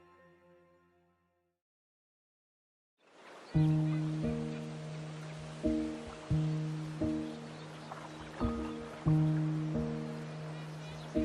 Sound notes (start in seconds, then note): 3.1 water trickling; 3.3 soft music